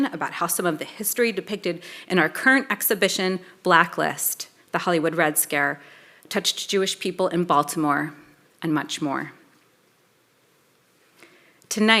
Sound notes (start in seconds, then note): none